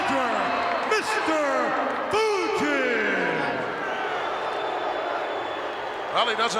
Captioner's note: crowd booing